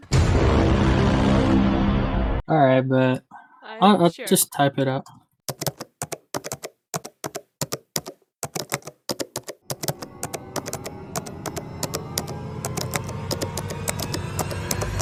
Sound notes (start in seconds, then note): 5.3 typing noises